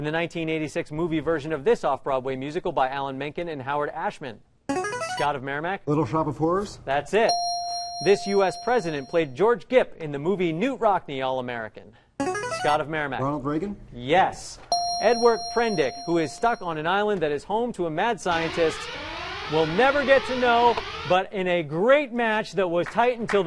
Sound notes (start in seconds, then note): 4.7 ringer; 7.2 ding; 12.2 ringer; 14.7 ding; 18.2 alarm whirring